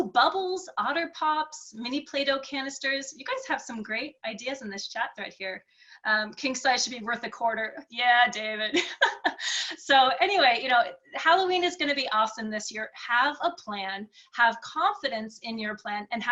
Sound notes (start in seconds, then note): 8.8 laughing